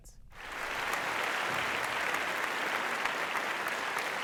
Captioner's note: audience applauding